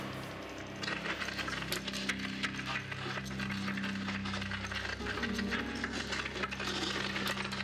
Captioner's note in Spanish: ruido de las cadenas